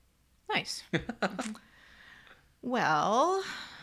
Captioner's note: laughs